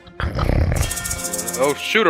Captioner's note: snoring; pepper shaker sounds